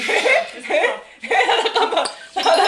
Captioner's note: laughing